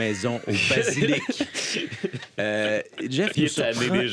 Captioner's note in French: rires